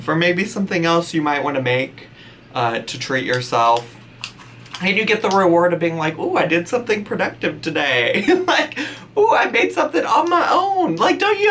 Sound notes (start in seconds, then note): 8.7 laughs